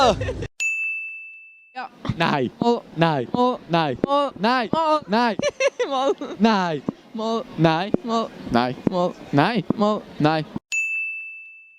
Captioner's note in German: lachen